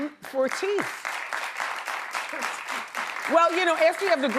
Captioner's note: audience applauds